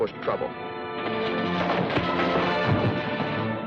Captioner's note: punching